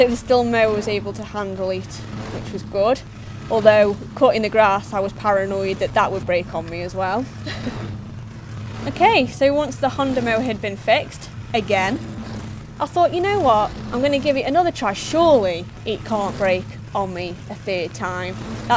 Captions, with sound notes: so the Stihl mower was able to handle it which was good. Although cutting the grass I was paranoid that, that would break on me as well. [laughs] Ok so once the Honda mower had been fixed again! I thought "you know what I'm going to give it another try, SURELY it can't break on me a third time"